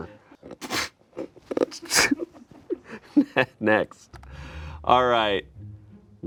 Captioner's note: laughs